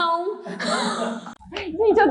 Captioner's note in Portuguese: risos